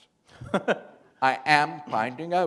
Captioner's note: chuckle